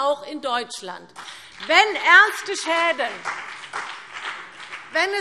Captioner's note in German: Beifall BÜNDNIS 90/DIE GRÜNEN und vereinzelt CDU